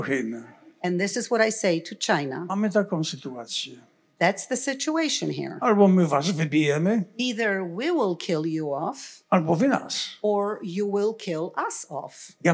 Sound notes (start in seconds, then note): 0.0 foreign language; 2.7 foreign language; 5.8 foreign language; 9.2 foreign language; 12.2 foreign language